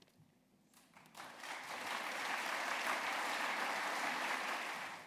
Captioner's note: applause